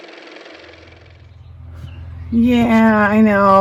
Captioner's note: car motor